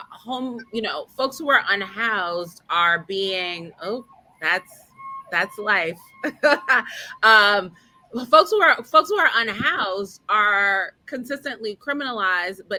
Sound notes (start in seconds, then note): 5.8 laughing